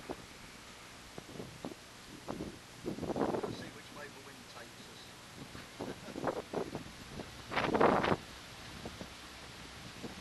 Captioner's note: sound - Wind noise on microphone